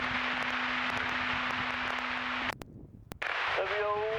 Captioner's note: muffled radio chatter